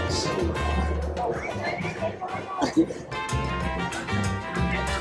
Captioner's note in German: Applaus